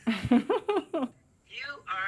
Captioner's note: laughs